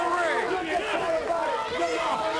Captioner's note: crowd chatter